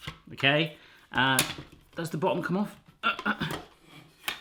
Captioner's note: grunts